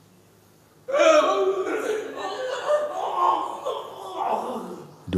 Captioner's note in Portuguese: prantos intensos continuam